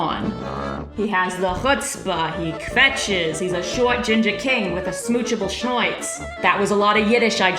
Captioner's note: in a New York accent